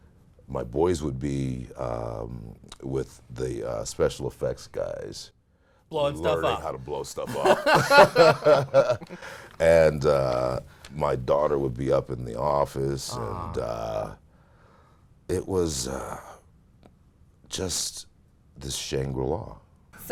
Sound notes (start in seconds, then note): 7.2 laughter